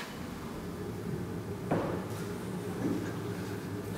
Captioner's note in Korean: 갑자기 환풍기 돌아감